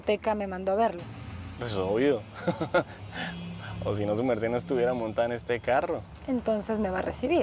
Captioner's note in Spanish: risas